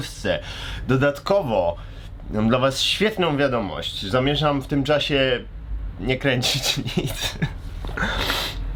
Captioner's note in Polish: śmiech